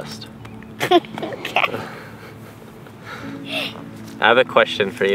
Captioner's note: giggles